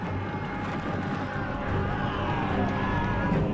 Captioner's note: warriors shouting